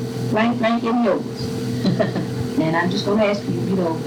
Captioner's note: laughter